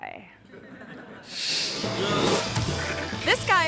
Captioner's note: audience chuckling; screen whooshes